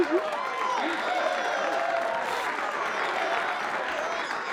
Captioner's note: applause continues